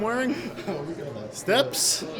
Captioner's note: laughs